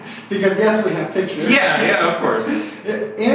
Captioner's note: laughs; laughs